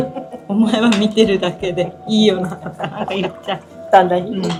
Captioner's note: laughs